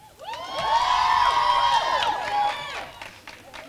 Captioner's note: crowd cheering